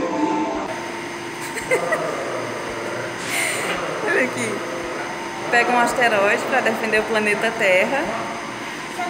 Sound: laughter

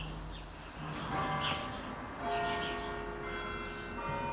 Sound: church bells

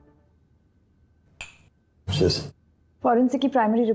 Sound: toasting

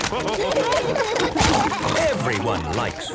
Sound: splashing

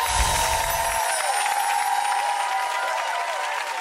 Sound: chimes twinkling; audience cheering

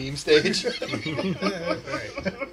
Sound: both laughing

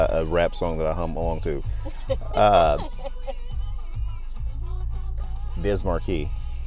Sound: laughs

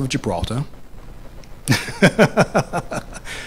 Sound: laughs

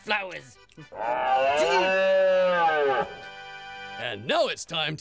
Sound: bugling

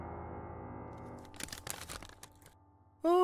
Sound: paper crinkling

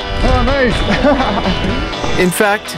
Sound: laughs

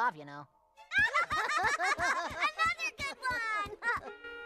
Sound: laughing

